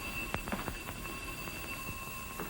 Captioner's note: phone ringing